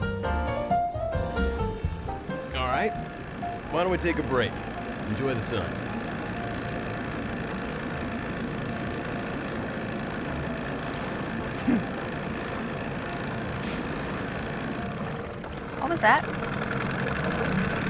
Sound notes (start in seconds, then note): 6.1 engine purring; 11.5 giggles; 14.8 engine slows, sputters